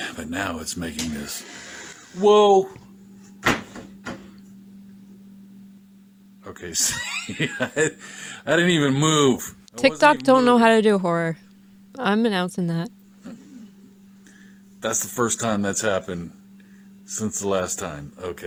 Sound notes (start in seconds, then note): 4.1 cupboard opens